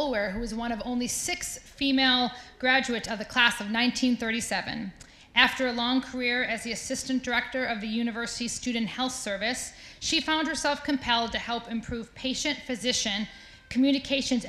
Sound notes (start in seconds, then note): none